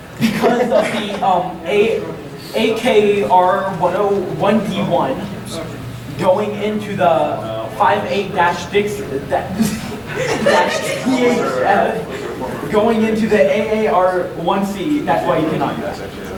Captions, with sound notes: Because of the "AKR10-- 1D1," Going into the 58-Dix--(laughs) (audience laughing) Going into the AAR1C that's why you cannot do that.